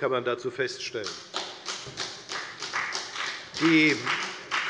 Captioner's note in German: Beifall bei der FDP